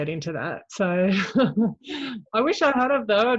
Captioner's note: chuckles